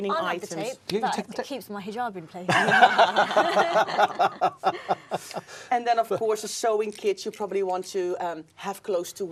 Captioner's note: laughing